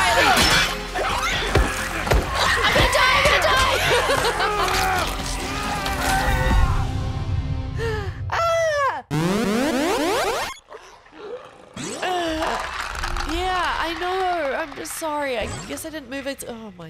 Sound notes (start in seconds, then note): 12.0 laugh